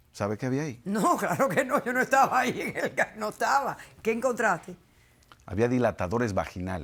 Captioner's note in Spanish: Ríe